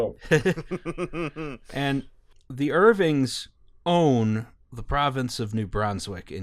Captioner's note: laughter